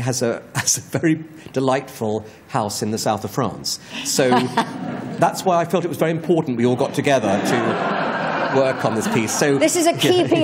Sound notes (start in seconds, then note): 6.7 laughter